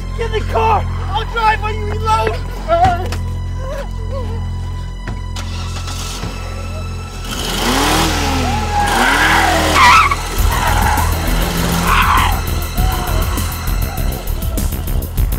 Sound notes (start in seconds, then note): 2.2 frightened music; 9.2 tires squealing; 11.9 urgent music